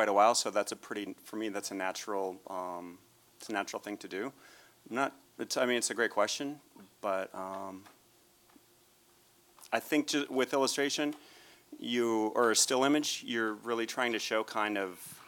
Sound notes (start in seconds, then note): none